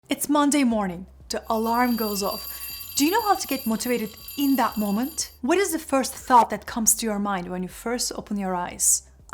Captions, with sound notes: - It's Monday morning to alarm goes off. (alarm ringing) Do you know how to get motivated in that moment? What is the first thought that comes to your mind when you first opened your eyes?